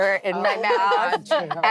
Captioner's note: laughing